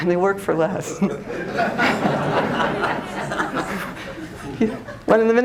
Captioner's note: laughter